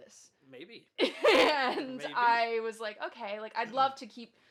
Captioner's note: laughs